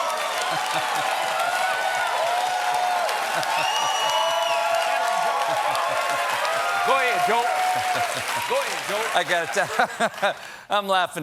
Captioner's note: laughs; cheers and applause